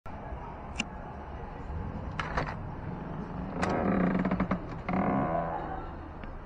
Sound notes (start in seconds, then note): 2.0 door opening